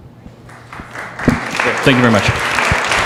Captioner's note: audience applause